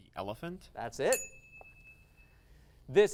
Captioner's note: ding